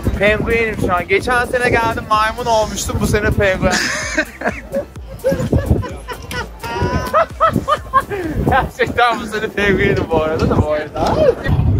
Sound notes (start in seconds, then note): 3.6 laughter